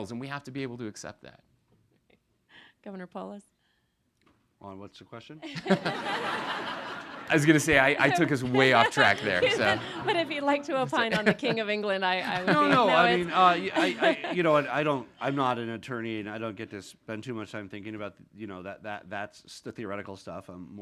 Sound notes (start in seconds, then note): 6.1 all laughing; 9.7 chuckles